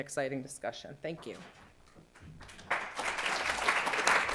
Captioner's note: applause